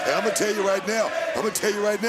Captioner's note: crowd chants "jd"